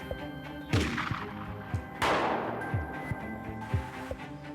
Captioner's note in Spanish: se oyen disparos